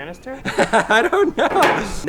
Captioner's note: laughs